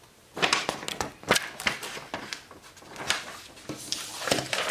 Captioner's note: paper rattles